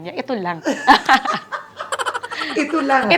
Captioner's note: laughs